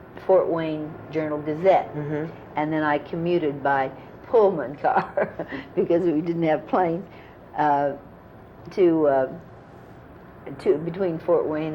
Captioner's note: laughs